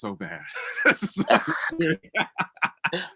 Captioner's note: laughing